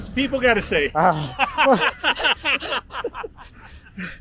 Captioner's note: laughs